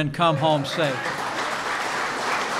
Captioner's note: applause